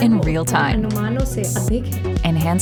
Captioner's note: speaking Hindi